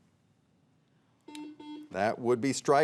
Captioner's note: buzzer buzzing